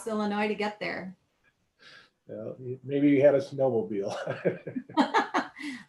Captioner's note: laugh